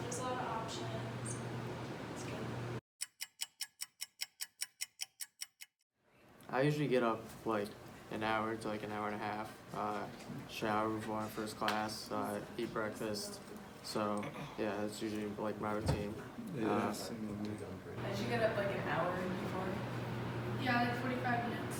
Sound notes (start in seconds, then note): 3.0 clock ticking